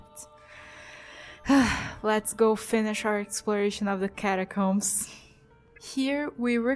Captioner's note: sigh